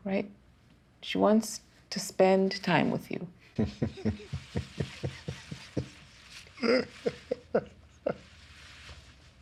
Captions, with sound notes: She wants to spend time with you. [CHUCKLING]